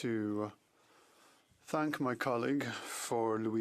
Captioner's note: speaking French